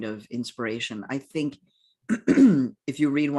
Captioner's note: clears throat